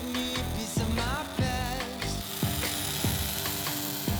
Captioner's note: welding buzzing